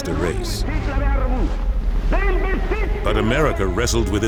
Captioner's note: Hitler speaks in German